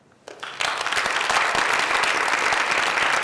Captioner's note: applause